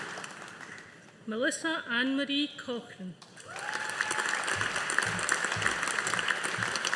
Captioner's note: audience applauding